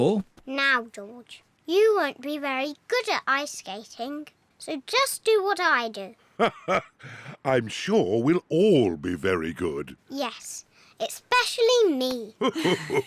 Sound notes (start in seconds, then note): 6.4 laughs; 12.4 laughs; 12.4 laughs and snorts